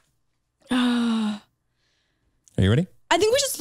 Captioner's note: sighs